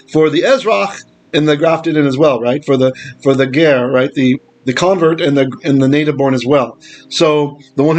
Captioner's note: Hebrew; Hebrew